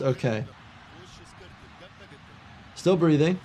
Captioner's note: commentator speaking in foreign language